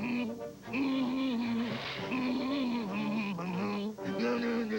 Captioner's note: grunts